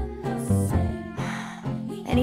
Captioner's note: sigh